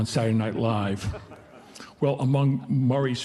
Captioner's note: audience laughing